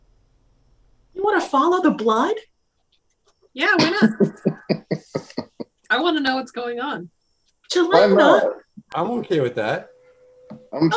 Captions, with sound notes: - You want to follow the blood? - Yeah, why not? (laughter) - I want to know what's going on. - Qilynna. - Why not? - I'm okay with that.